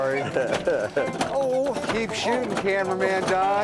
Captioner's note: laughing